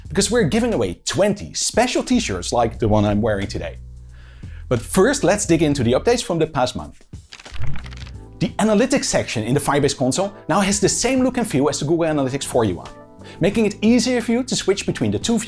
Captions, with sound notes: because we're giving away 20 special T-shirts like the one I'm wearing today. But first, let's dig into the updates from the past month. [PAGES FLIPPING] The Analytics section in the Firebase console now has the same look and feel as Google Analytics 4 UI, making it easier for you to switch between the two